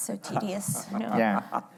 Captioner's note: laughing